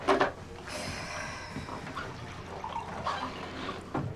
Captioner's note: Mona sighs